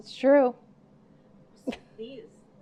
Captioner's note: laughing